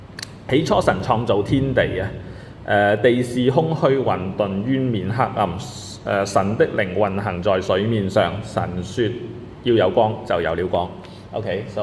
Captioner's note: reading in Cantonese